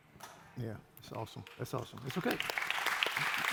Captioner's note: applause